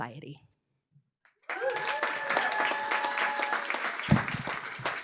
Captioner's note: applause